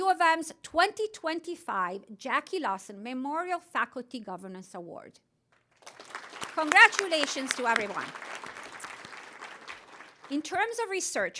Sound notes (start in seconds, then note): 8.1 applause